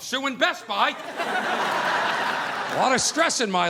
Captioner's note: audience laughing